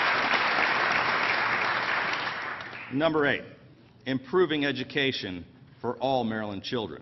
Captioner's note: applause